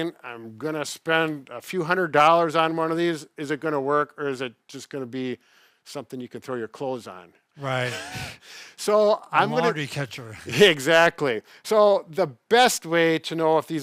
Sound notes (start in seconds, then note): 7.6 laughing